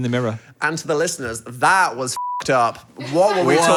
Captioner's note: beep